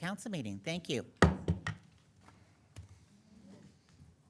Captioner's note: gavel knocking